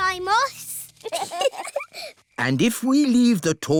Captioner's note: both giggle